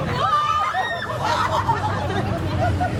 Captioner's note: riders screaming; riders laughing